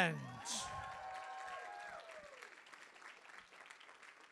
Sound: applause

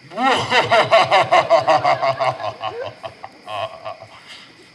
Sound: WOLF exits with an evil laugh

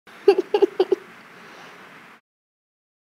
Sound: chuckles

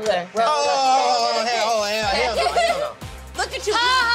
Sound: grumbling

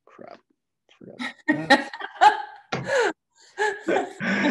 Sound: laughing

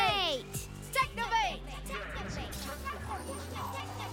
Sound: echoing

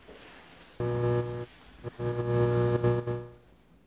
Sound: light buzzes

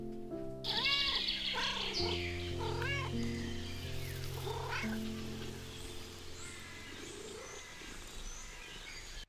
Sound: cats meow and trill near Milo

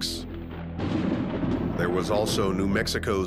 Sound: thunder claps

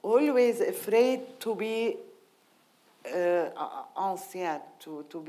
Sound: speaking in foreign language

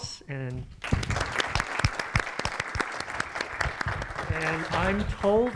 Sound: audience applauding

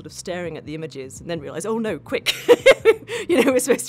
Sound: laughs

